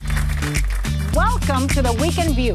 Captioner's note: audience applauding